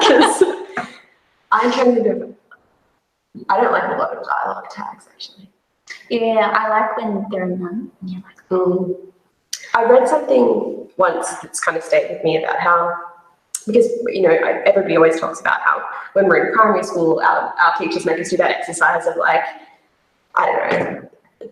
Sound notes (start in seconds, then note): 0.0 both laugh; 9.0 murmurs